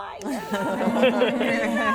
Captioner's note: laughing